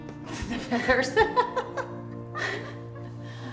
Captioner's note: laughing